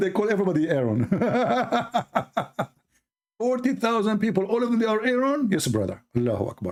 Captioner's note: Ketawa